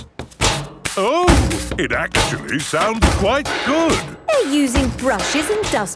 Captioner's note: rhythmic clanging